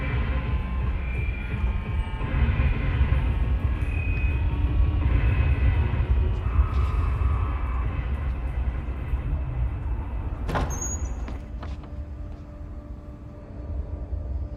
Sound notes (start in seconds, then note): 0.1 intense music continues; 10.3 door creaking